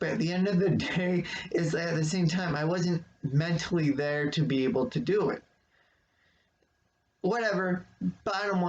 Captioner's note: chuckles